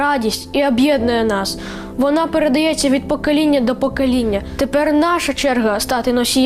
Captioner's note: speaking in foreign language